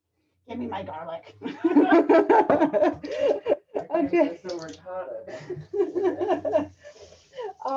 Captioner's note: laughter and chatter